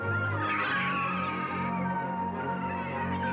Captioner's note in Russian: крики чаек